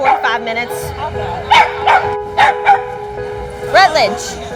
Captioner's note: dog barks